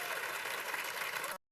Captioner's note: cheers and applause